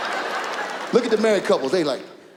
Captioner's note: audience laughs